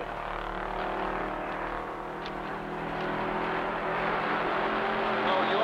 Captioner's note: engines rumbling